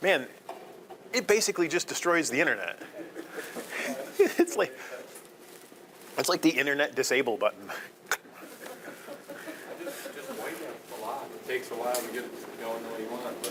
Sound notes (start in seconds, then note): 2.7 all chuckling; 8.2 audience laughing